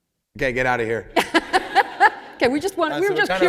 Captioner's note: laughter